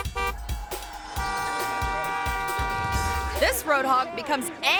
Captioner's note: horn honking